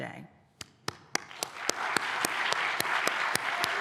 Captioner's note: applause